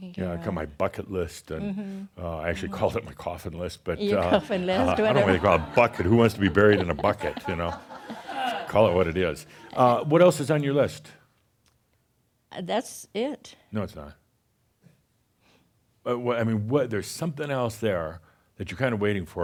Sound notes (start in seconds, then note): 4.7 some chuckles; 8.1 more chuckles